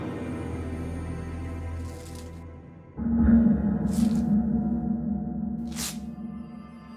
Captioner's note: eerie music; tape crackling